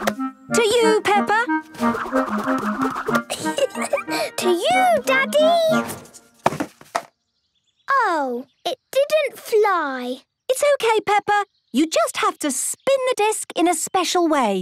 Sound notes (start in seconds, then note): 3.2 giggling